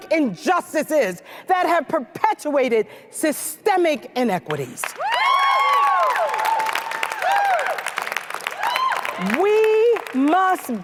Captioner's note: applause